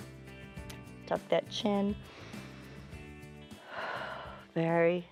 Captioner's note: inhales and exhales